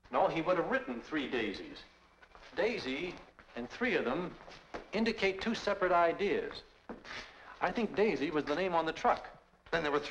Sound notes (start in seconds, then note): none